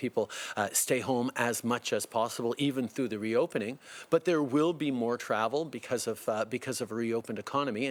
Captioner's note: speaking French